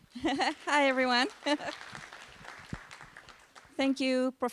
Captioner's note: applause